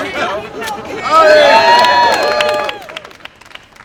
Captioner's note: cheers and applause